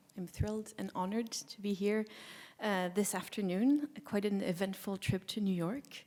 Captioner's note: none